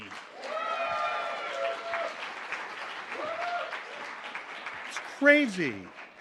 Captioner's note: audience cheers and applauds